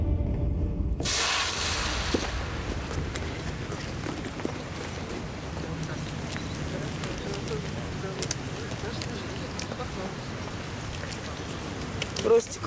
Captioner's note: street noises